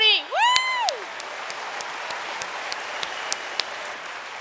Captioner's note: cheers